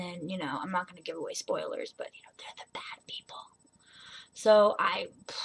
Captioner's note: whispers